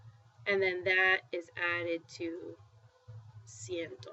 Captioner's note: spanish